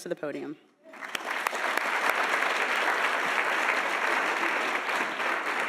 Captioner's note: audience applauding